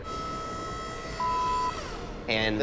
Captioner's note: machine whirring